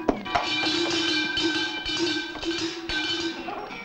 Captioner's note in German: Kuhglocken läuten